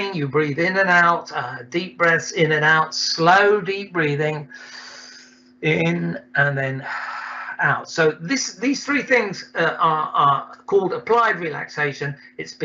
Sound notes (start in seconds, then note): 4.5 exhales deeply; 4.5 inhales deeply